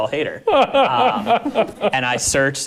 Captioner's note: laughing